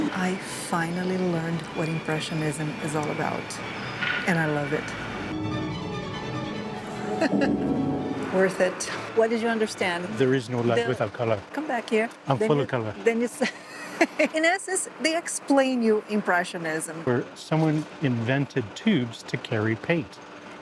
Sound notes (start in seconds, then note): 6.8 laughs; 13.5 laughs